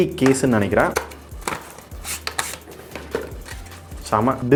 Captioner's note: rubbing sound of Cardboard